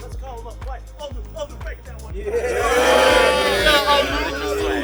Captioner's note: players cheer